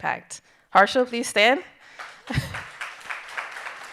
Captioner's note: audience applauding; chuckles